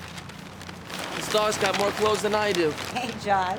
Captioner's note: bag rustling